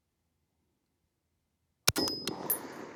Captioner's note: gunfire